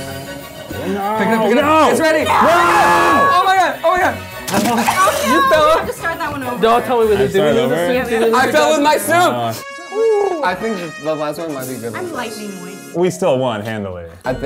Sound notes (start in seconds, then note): 2.9 yelling